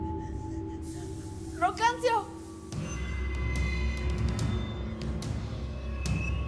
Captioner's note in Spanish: Sollozos